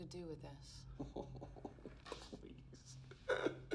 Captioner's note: snicker